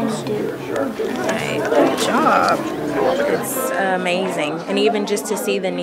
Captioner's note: sound of child reading